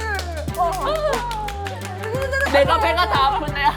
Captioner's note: applause